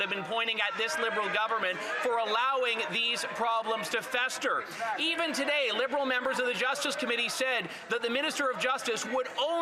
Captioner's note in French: voix de l'interprète